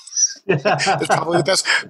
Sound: laughs

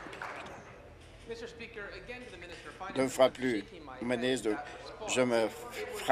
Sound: applause

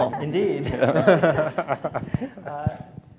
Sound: laughter

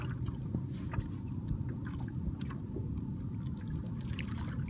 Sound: a boat is passing

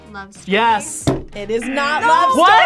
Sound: buzzer

